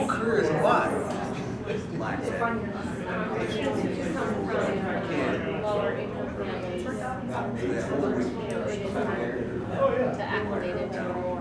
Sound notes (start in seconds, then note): 1.0 background Discussion